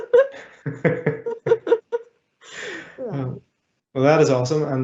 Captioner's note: laughing